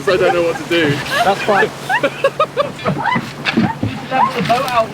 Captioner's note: group laughing